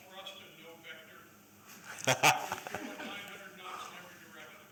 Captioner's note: laughter